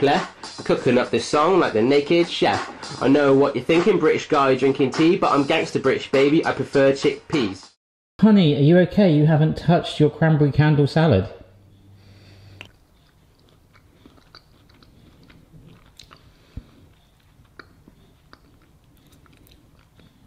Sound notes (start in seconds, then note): 12.1 chewing